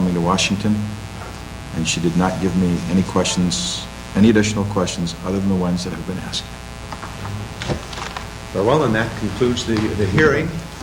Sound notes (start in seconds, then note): 7.5 papers rustling